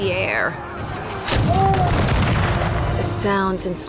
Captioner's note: cannon blasts, gunfire